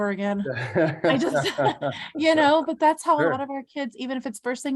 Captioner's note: both laugh